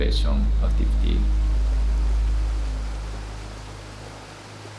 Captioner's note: water gushing